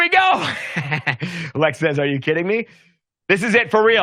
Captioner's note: laughs